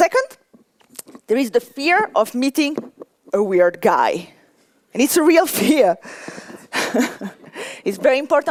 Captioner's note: laughter